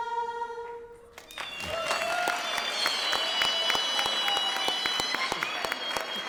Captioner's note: audience cheers and applauds